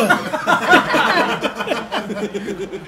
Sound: laugh

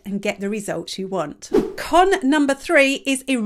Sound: image whooshes

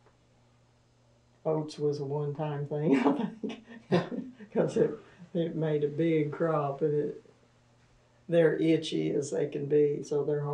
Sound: laughs

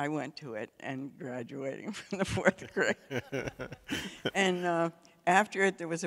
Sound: laughs

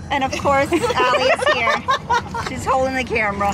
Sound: laughter

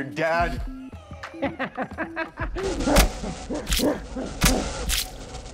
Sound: laughs

